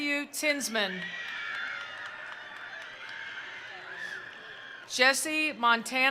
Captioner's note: attendees cheering; attendees applauding